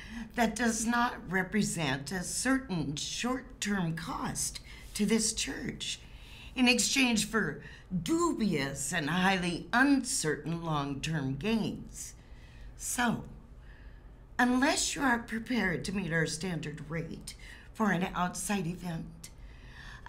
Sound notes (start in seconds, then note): none